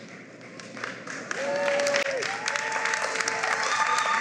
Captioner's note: cheering and applause